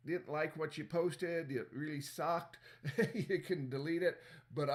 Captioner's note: laughter